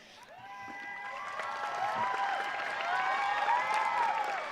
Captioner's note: audience cheering